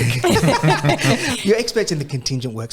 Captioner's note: laughing